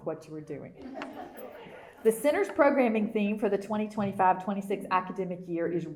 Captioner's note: laughter